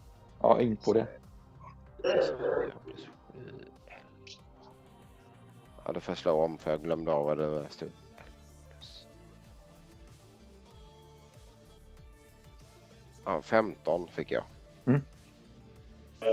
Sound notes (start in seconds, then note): 2.0 counting